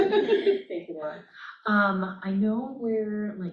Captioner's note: laughter